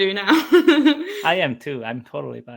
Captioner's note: laughs